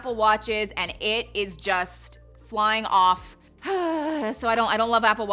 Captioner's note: sighing